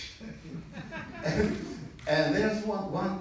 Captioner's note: laughter in audience